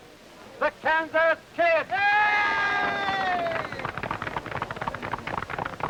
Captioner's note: audience cheering